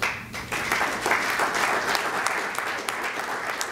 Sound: applause

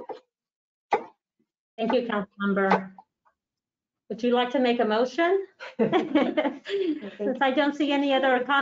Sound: all laugh

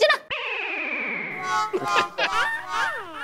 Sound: comical music plays; laughs

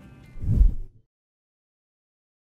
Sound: wind whooshing

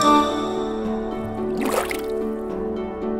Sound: bubbling sound

